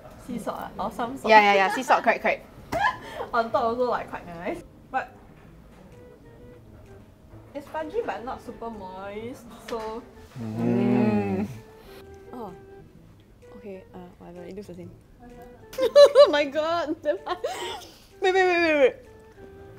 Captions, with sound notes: Sea salt, or some salt. Yeah, sea salt correct. On top also like quite nice. But. It's fudgy but not super moist.. So. Mmmm.. Oh. Okay whatever, it looks the same. *Laughing* My god.. Wait x5